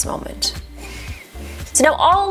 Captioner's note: inhales